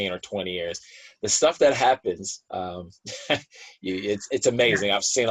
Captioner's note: laughs